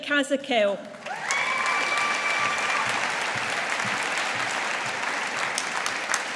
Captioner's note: audience applauding